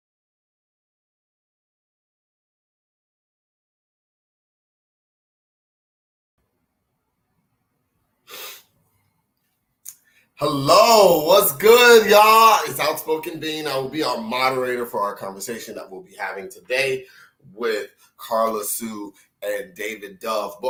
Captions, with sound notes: (sniffling) - Hello, What's good y'all? It's Outspoken Bean. I'll be our moderator for our conversation that we'll be having today with Carla Sue and David Dove.